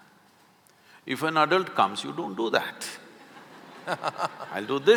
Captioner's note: laughter